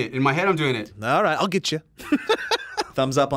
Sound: laughs

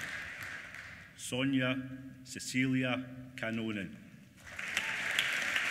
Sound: applause

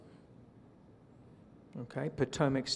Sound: silence

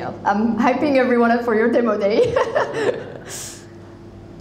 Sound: chuckles

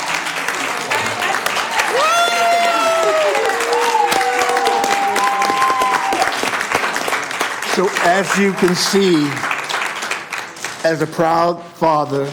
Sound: applause

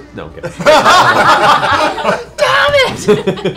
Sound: laughter

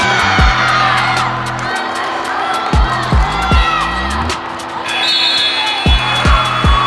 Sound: whistle

